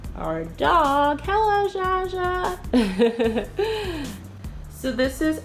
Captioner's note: chuckling